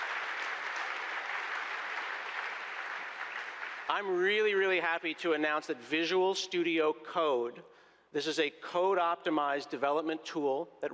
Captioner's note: applause